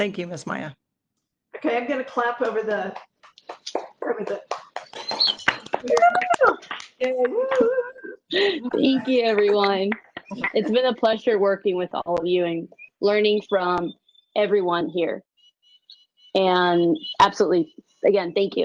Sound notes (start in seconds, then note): 7.7 clapping, whistling, cheers